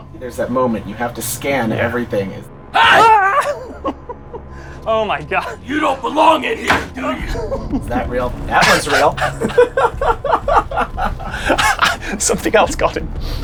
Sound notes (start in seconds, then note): 8.6 group giggling